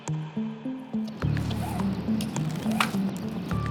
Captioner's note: rope being pulled